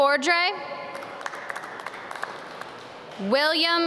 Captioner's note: audience clap